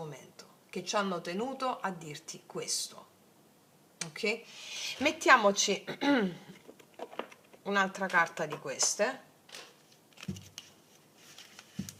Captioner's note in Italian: schiarire la voce